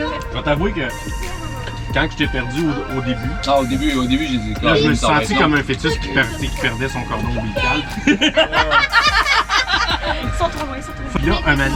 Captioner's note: laughs